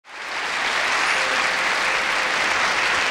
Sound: audience applauding

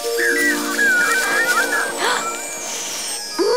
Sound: gasping

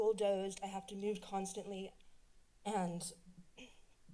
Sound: clears throat

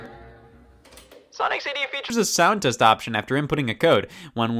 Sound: Scott on tape player

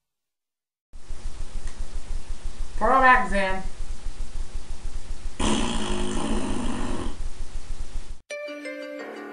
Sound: blows raspberry

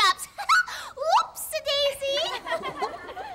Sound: giggles; everyone laughs

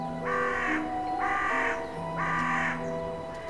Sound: bird caws

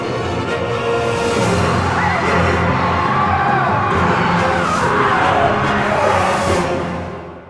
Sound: screaming from portal

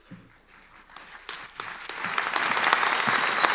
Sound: applause

